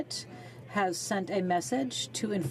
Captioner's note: speaking in french